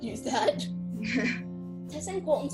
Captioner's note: laugh